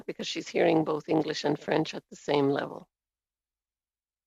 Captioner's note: speaking in French